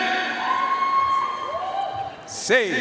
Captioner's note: audience cheering and applauding